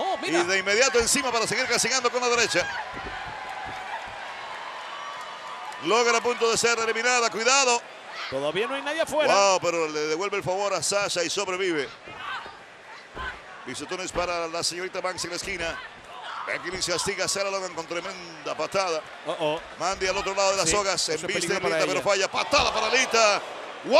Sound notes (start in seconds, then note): 3.2 applause